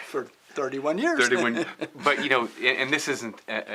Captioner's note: laughs